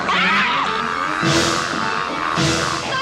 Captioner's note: screams